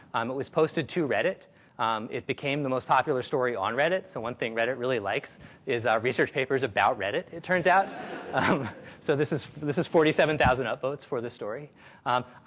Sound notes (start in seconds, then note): 7.8 audience laughs